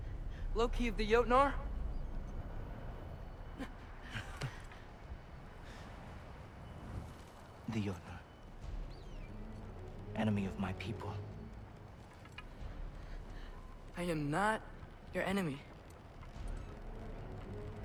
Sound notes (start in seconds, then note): 4.0 laugh